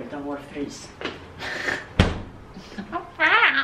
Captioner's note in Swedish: fniss